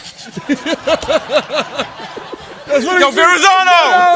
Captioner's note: laughter